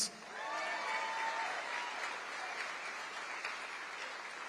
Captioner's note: crowd cheering